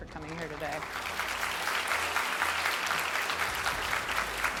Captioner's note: audience applauds